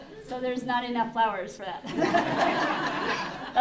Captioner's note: laughter